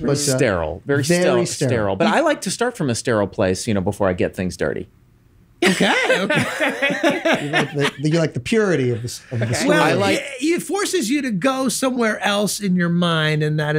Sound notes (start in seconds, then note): 5.6 laughs; 8.0 Charlie laughs